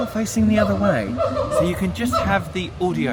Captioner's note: monkey whooping